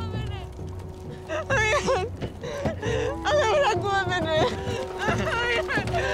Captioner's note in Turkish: Ağlama Sesleri